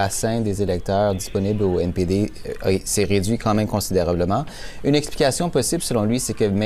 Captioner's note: speaking french